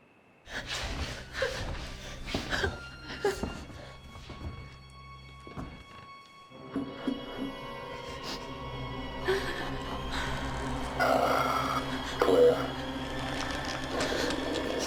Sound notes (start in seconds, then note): 1.9 suspenseful music; 3.0 Claire whimpering